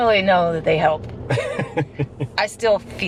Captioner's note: laughing